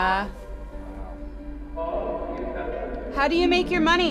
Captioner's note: distorted speaking